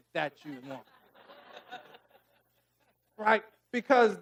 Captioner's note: audience laughing